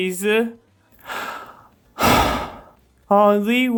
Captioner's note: sigh